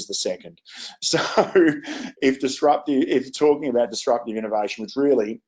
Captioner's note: laughs